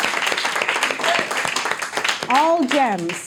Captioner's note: all applauding